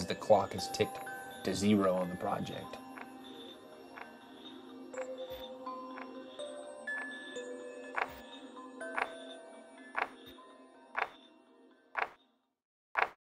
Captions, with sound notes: the clock is ticking to zero on the project. (clock ticking)